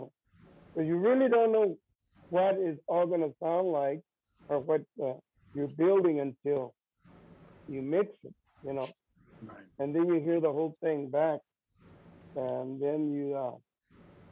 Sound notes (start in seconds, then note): none